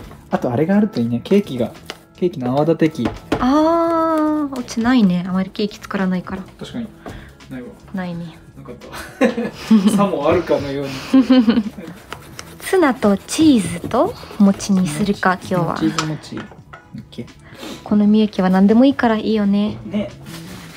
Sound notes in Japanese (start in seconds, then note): 10.8 笑い